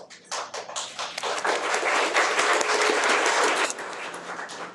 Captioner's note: audience clapping